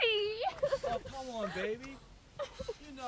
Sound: crying

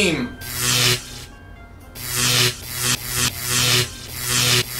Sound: electricity Charging

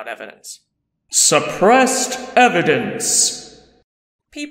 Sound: voiceover

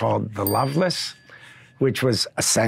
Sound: bell dinging

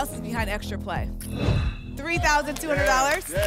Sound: whoosh

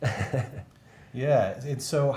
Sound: laughter

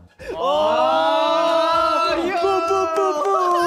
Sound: all exclaiming

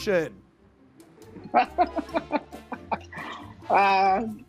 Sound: laughing

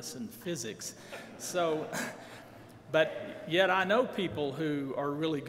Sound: laughing

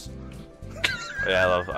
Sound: laughs

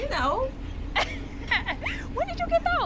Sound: laughing

